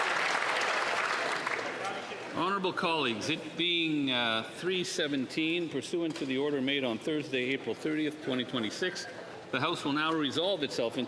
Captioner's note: applause